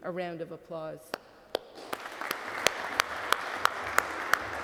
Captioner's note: cadets clapping